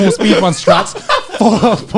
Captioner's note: laughing